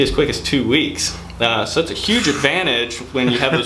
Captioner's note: exhales loudly